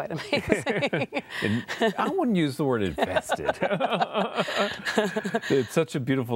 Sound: laughter

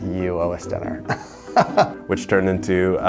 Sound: laughs

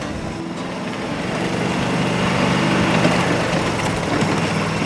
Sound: motor whirring

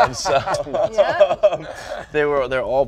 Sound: laughs

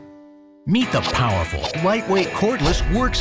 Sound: voiceover

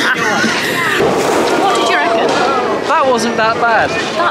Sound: laughs

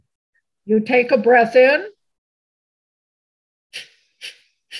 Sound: sniffling

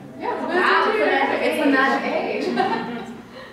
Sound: sounds of surprise

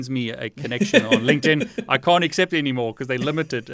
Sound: laughing

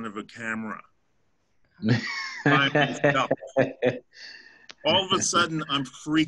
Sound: laughter

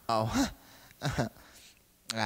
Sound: laughs

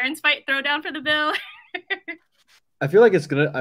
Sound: laughs

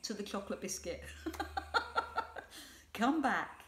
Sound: laughs

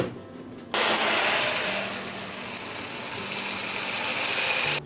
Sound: gentle music; water spraying; gentle music

